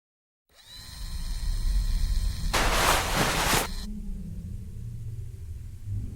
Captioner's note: mechanical sounds